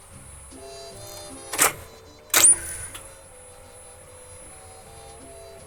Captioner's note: clicking